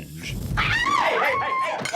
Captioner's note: Joanna screams